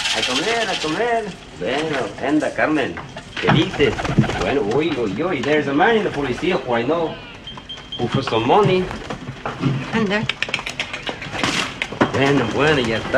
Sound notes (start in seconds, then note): 2.4 speaks Spanish